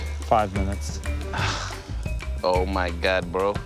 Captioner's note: scoffs